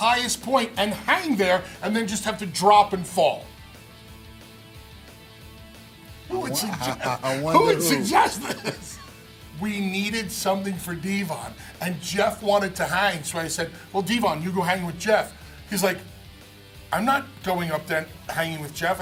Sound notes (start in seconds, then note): 8.9 laugh